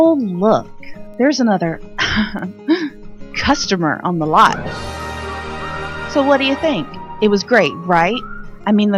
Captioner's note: coughs